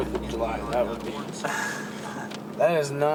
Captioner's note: laughter